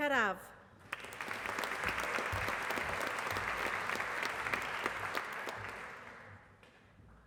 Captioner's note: applause